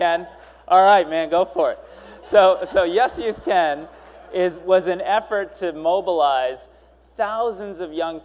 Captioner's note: cheers and Applause